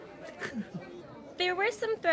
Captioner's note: Cornette laughs